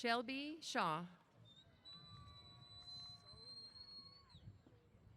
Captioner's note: cheers